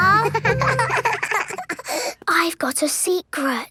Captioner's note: both giggling